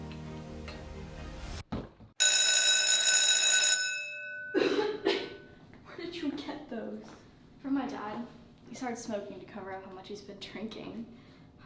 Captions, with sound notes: (door slams shut) (school bell blaring) - Where did you get those? - From my dad. He started smoking to cover up how much he's been drinking.